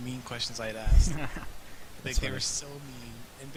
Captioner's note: chuckling